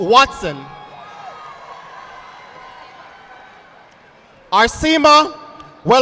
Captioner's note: audience applauding